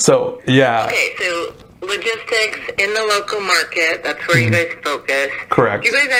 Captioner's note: on phone